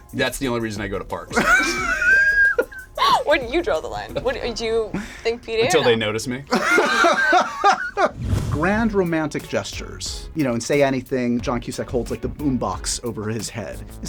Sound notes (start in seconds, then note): 1.3 laughter; 6.5 laughs